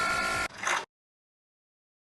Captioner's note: click